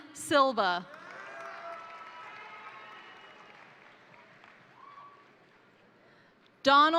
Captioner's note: crowd cheering; crowd applauding